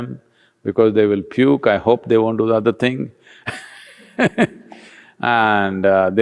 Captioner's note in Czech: Smích